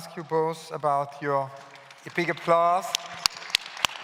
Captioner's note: claps